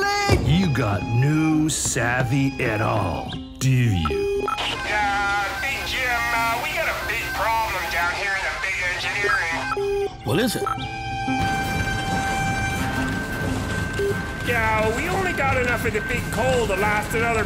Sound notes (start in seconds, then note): 4.1 Engineer Joe on loudspeaker; 11.2 alarm bells sounding